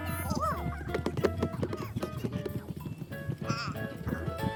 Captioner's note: hooves stomping